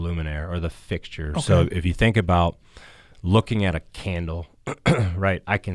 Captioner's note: clears throat